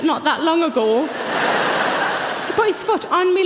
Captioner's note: audience laughs